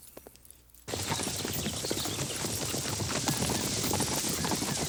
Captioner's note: hooves clop